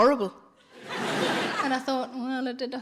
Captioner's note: audience laughs